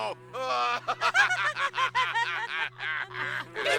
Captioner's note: laughter